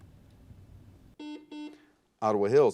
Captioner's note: buzzer